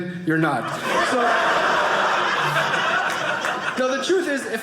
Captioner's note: audience laughing